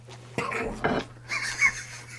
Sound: cough

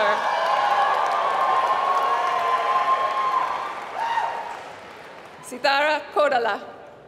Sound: applause; applause

